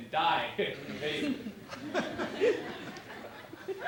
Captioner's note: laughter